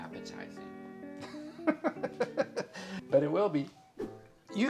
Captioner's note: laughs